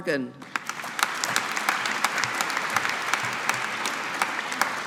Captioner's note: audience applauding